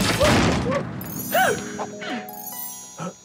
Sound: gasping

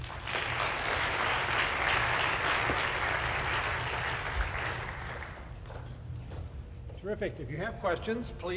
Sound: applause

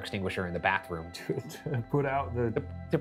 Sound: laughs

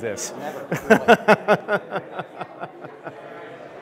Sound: laughs

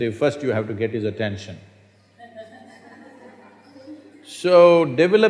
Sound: few Laugh

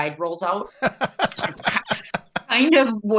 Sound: laughing

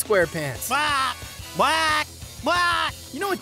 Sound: talking gibberish

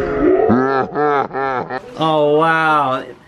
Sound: laughs in slow motion

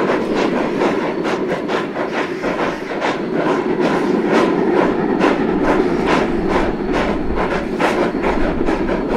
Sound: heavy chugging from rotary

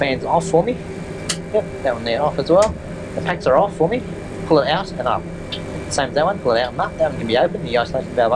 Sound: click

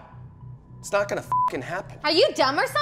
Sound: beep

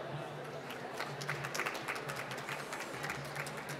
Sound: applause

